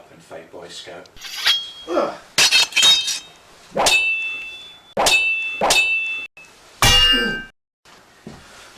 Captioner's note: sword SFX